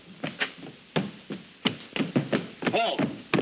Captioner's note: marching footsteps